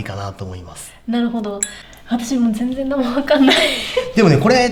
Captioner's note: laughs